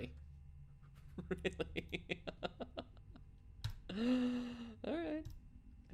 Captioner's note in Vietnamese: nói khi đang cười